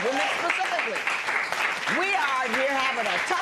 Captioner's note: applause